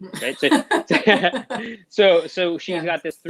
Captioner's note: both laughing